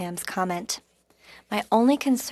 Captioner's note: speaking French